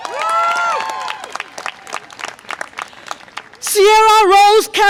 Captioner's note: audience applause and cheer